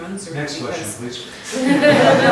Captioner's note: laughter